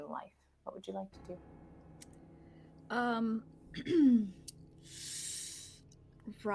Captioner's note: dramatic sounds effects